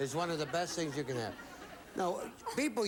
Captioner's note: audience laughing